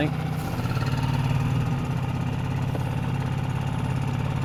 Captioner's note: engine idling